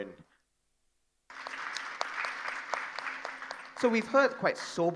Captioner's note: audience applauding